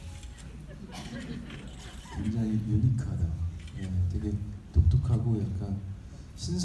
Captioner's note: audience laughing; speaking in foreign language